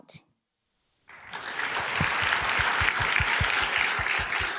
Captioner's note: applause